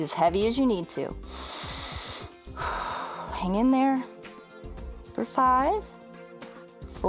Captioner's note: inhales and exhales